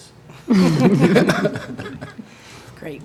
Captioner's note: laughter